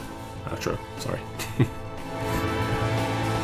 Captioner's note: chuckles